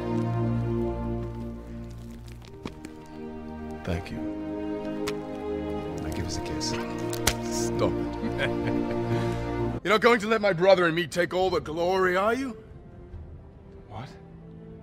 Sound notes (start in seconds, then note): 8.0 both laugh; 8.0 giggles